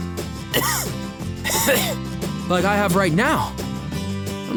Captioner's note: cough